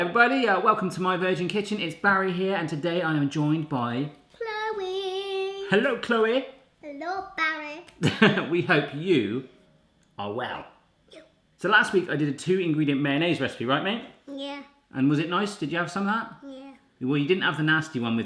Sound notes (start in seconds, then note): 8.0 laughs